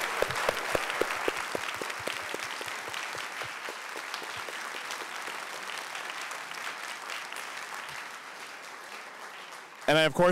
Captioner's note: audience Applause